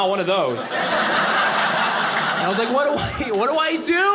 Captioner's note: audience laughing